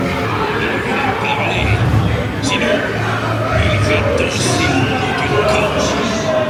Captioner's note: pirates speaking in French